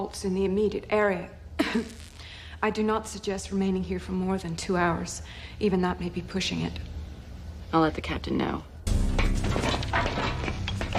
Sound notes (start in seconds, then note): 1.6 coughs